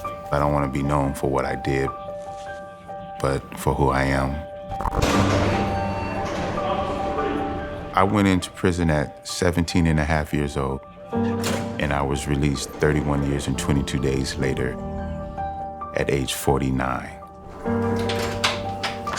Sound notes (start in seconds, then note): 5.0 prison door slams, chatter